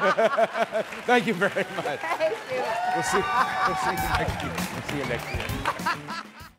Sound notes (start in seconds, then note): 0.0 cheers & applause